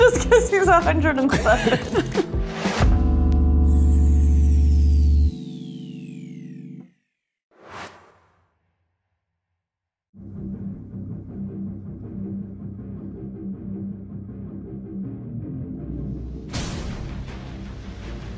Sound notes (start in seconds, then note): 1.9 groovy music; 7.6 logo whooshing